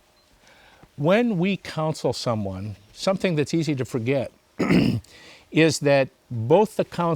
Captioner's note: clears throat